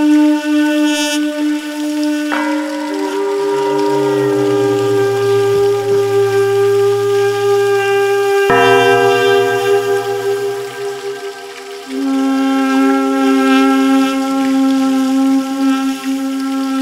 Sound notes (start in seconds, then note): 2.0 metallic echoing; 8.6 metallic echoing